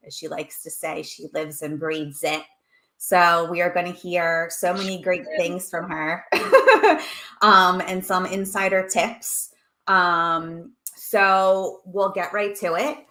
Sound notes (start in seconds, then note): 6.3 laughs